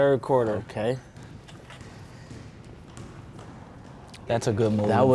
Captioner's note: ball dribbling